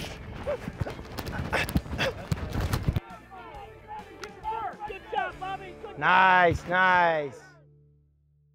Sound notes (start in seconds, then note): 1.2 heavy breathing; 1.6 players yelling